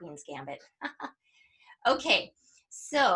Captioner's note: chuckles